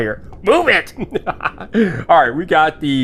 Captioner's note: laughing